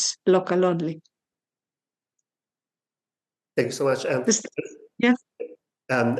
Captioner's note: silence